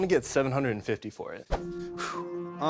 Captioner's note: exhales